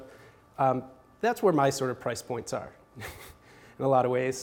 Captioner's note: chuckles